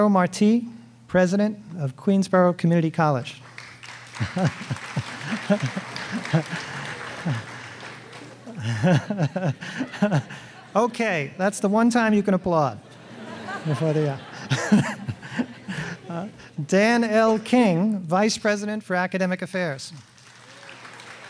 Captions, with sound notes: Eduardo Marti, President of Queensborough Community College. (audience applauding) (MC laughing) Okay, that's the one time you can applaud. Dan L. King, Vice President for Academic Affairs